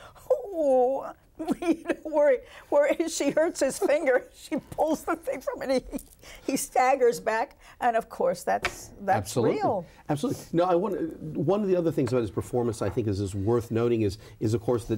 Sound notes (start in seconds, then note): 4.3 laughs